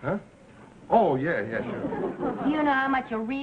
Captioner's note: audience laughing